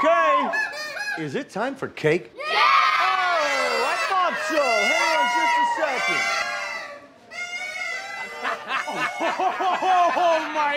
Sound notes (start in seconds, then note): 5.6 party horns honking; 8.2 laughter